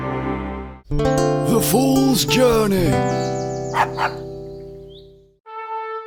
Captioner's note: dog barks